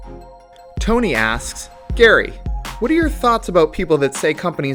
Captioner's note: voiceover